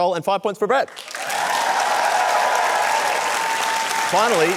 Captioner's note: cheering, applause